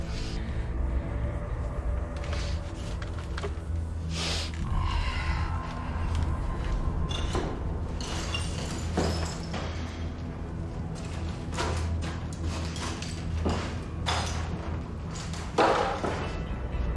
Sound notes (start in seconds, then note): 0.3 dark tense music; 6.8 rubble clattering; 8.2 footsteps thudding